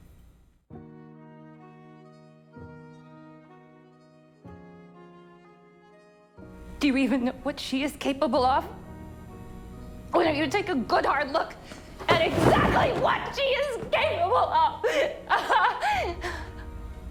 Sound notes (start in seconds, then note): 7.0 voiceover; 10.4 shouting